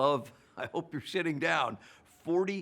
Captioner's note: laughs